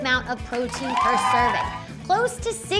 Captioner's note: cheering